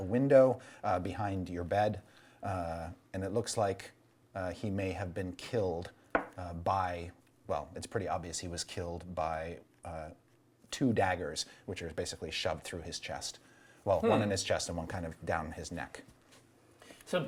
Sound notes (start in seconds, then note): none